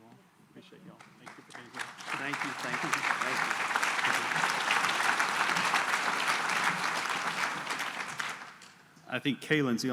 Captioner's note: applause